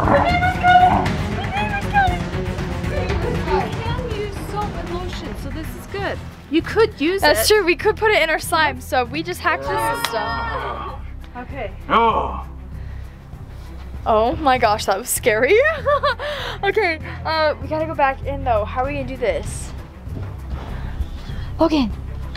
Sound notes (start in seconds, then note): 10.2 neighbor growling; 15.4 laughing